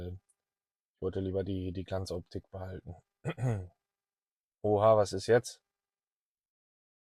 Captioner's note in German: räuspern